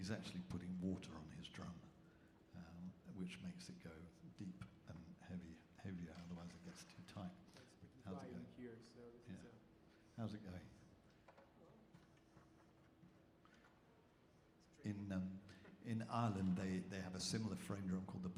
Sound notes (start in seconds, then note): 9.5 speaks faintly